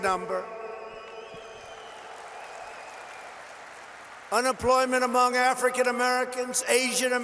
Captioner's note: applause